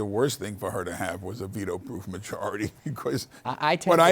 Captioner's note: laughs